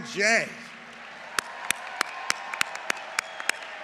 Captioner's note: applause